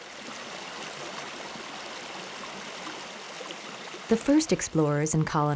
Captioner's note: water babbling